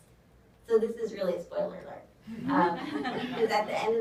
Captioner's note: audience laughs